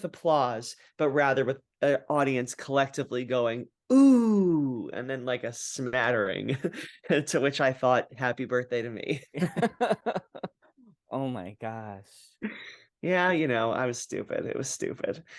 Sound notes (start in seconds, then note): 9.3 laugh